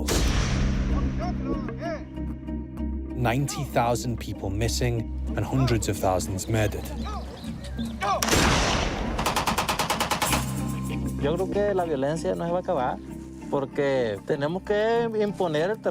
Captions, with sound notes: (GUNSHOT) 90,000 people missing and hundreds of thousands murdered. (MACHINE-GUN FIRE)